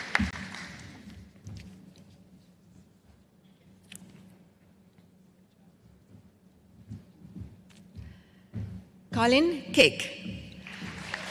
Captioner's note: applause